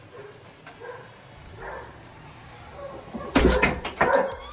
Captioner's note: dog barking